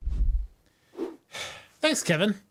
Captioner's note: exasperated sigh